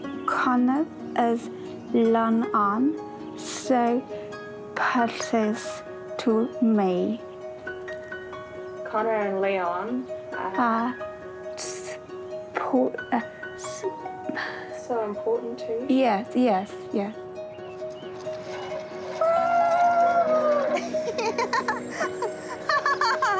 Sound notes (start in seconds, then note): 14.3 sighs; 21.1 laughs